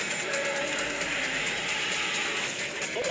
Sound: 777 roaring

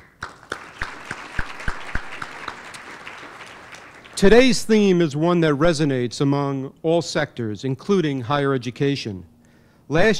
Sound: applause

